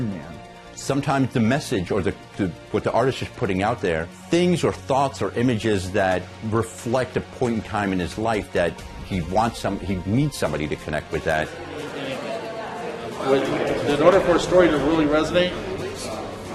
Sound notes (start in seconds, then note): 11.9 patrons chattering